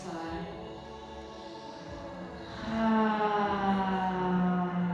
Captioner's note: all sigh slowly